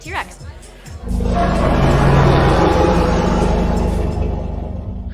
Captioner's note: Liv making a T-Rex roar